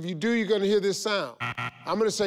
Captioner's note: incorrect buzzer